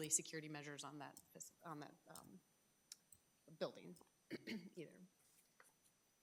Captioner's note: clears throat